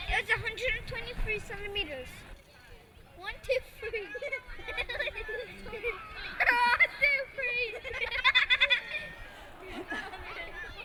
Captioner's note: laughs